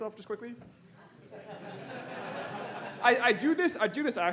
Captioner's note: audience laughing